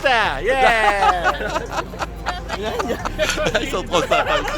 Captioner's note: laughter